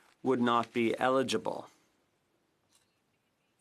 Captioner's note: speaking French